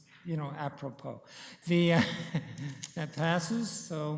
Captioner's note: chuckles